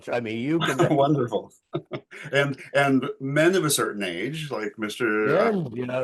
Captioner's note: chuckling